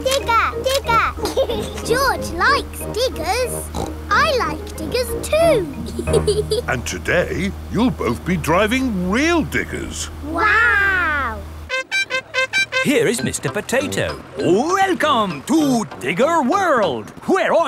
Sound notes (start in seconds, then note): 0.8 laughs; 3.6 snorts; 4.9 laughs